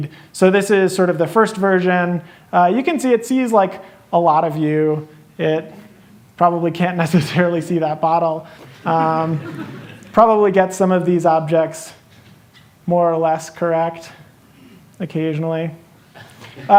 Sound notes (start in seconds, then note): 8.7 laughter